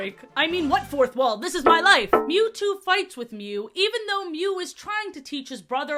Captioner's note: mild clanging against glass sound